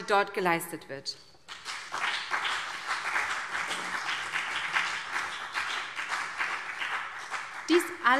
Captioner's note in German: Beifall BÜNDNIS 90/DIE GRÜNEN und CDU